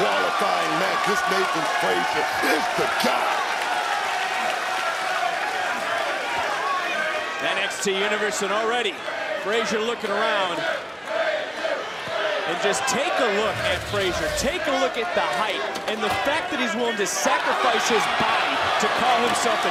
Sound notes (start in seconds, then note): 14.3 crowd chants "frazer"